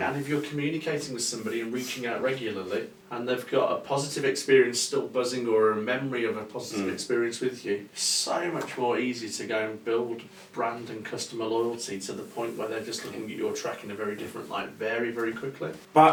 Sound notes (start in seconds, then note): none